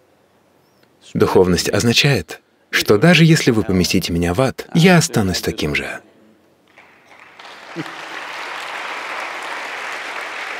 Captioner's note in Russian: аплодисменты